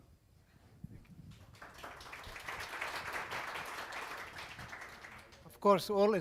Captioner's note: audience applause